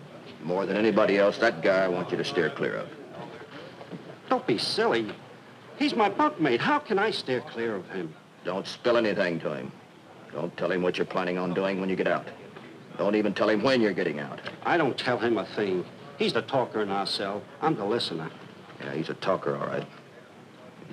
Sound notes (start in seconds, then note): none